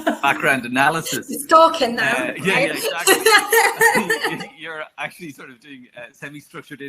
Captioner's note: awkward laughter